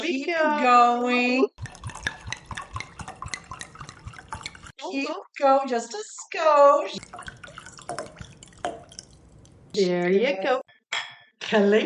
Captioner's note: wine pouring